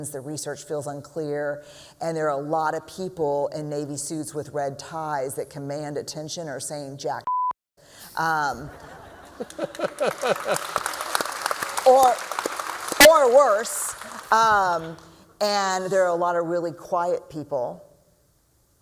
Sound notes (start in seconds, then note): 8.6 laughter; 9.4 applause